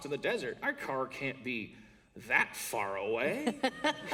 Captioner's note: laughter